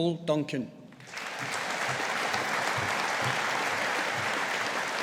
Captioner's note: audience applauding